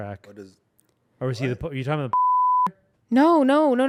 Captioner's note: beep